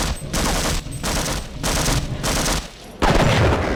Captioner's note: machine gun fire; two consecutive double shotgun blasts